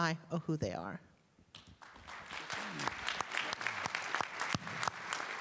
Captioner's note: applause